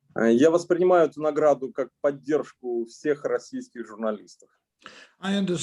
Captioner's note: speaking Russian language